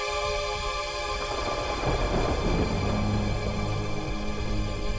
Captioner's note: thunder rumbling